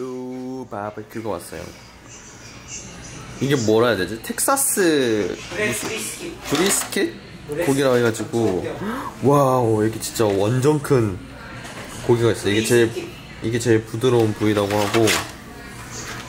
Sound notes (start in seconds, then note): 8.2 talking in the background; 11.7 talking in the background